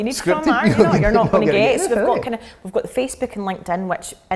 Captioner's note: laughing